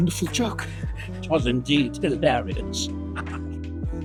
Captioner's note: laughs